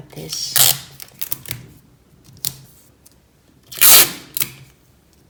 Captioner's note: tape unrolling sound